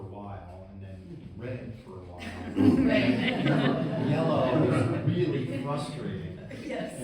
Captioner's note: laughing